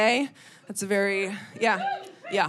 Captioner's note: audience member cheers